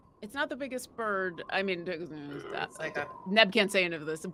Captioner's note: murmurs